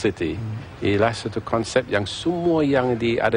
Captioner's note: non-english speech